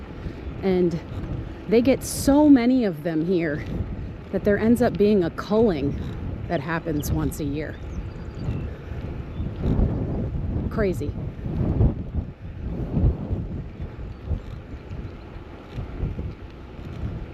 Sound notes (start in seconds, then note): 13.0 wind gusting